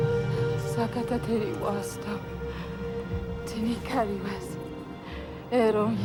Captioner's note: Karen speaks foreign language